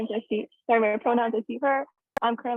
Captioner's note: audio distorts